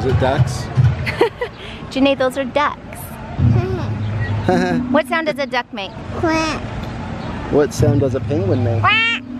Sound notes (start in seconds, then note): 1.0 laughs; 4.5 chuckles